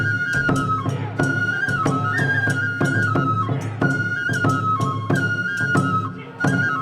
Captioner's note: dancers chanting in foreign language; upbeat Japanese folk music continues